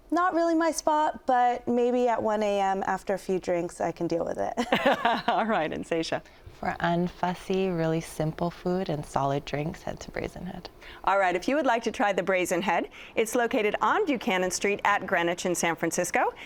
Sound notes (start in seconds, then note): 4.6 laughs